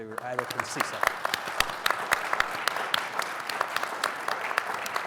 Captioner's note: audience applauding